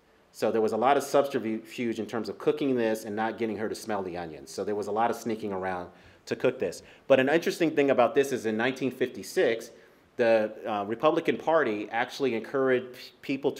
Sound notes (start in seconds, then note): none